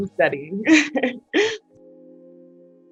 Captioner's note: laughs; calm music